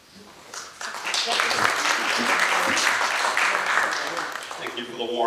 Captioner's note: applause